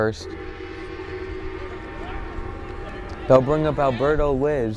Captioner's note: gong blares